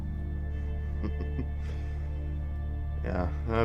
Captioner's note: chuckling